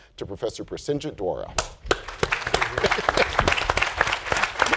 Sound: applause

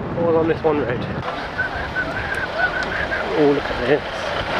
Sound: whistles

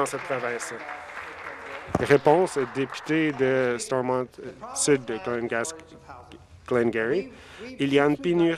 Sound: applause

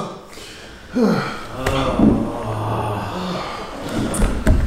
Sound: all groaning

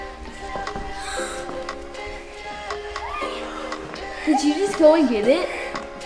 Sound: excited gasping

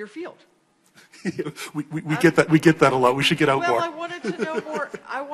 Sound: laughing

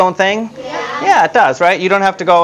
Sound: audience response

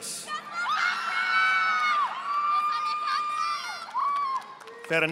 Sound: audience applauding

